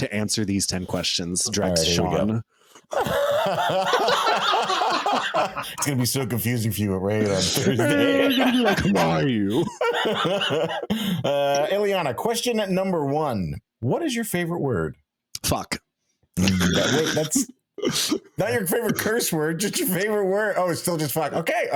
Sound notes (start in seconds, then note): 2.8 laughing